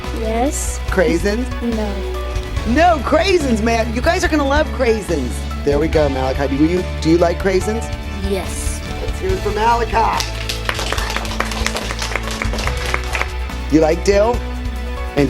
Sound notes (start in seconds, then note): 11.7 clapping